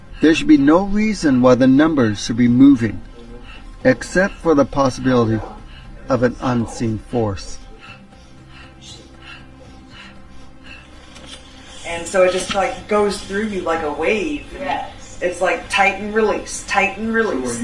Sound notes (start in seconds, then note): 7.3 panting; 8.2 dramatic music